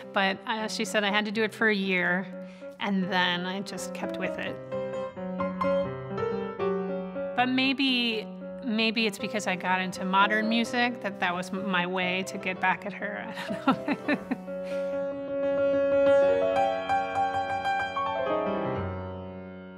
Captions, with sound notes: but she said I had to do it for a year. And then I just kept with it. (piano playing) But maybe, maybe it's because I got into modern music. That that was my way to get back at her. I don't know. (laughing) (piano playing intensifies and subsides)